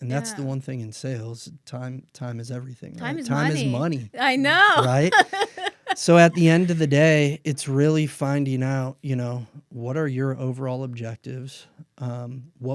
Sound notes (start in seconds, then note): 4.4 laughs